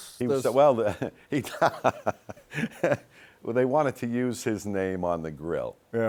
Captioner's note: laughs